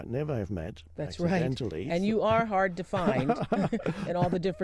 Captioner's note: laughs